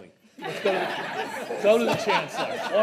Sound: trustees laugh

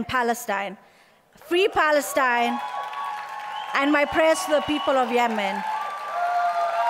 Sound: applause

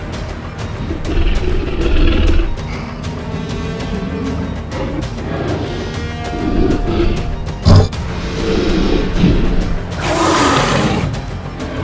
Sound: T-Rex Eating Sounds; T-Rex Sounds

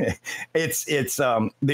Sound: laughing

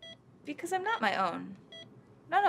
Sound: none

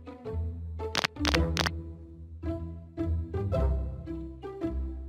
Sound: crack crunch crack

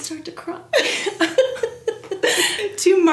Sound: both laugh

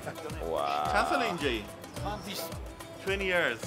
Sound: speaking foreign language; owner speaking foreign language

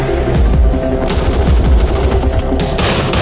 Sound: rapid gunfire; gunshot

